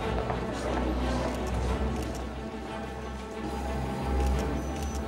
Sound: camera clicks

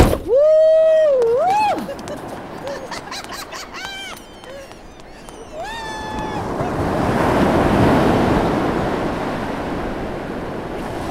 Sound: the sound of birds and the ocean

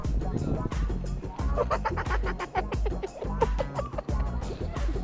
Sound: Tobi laughing

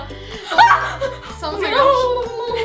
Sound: yelps

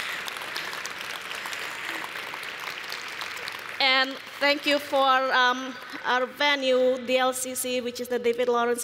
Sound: applause

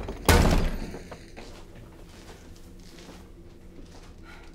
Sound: none

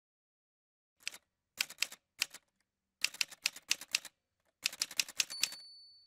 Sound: typewriter sounds

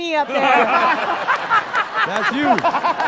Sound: laughter

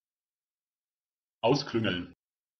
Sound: fast Pronunciation

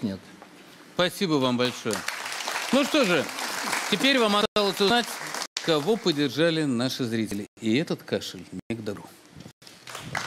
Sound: applause

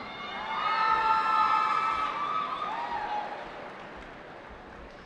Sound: cheering

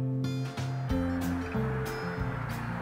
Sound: tire and engine noise

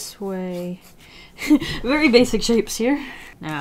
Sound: laughs

